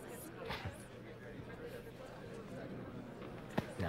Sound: chuckles

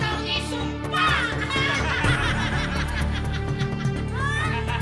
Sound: both laughing

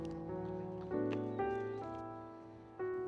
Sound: footsteps

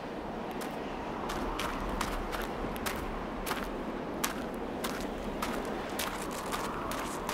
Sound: wind blowing; gravel crunching

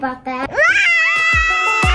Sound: screams

